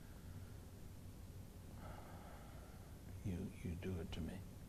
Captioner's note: sigh